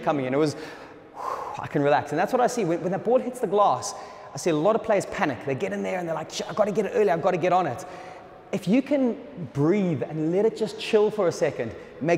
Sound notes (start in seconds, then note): 1.1 sighing